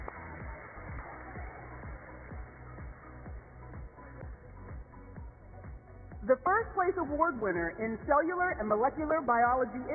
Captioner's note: applause